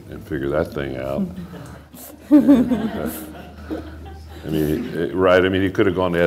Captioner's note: laughter